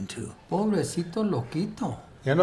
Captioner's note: speaking spanish